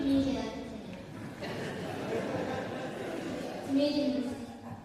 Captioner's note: laughter